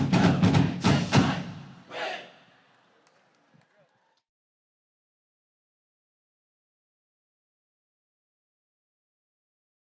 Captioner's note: go jackets chant